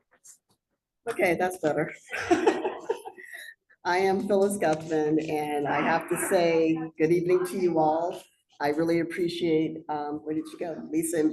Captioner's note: laughter